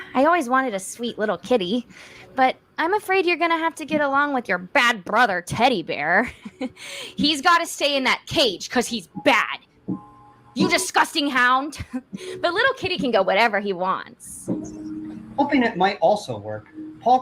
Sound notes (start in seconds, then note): 6.2 chuckles; 12.1 chuckles